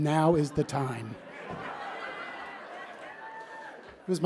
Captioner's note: laughter